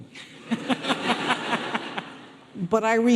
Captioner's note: audience laughing